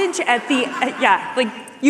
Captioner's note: laughter